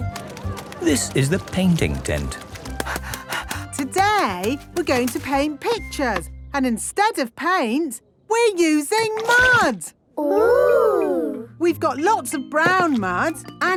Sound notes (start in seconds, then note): 2.8 panting